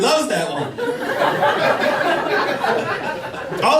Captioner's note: laughter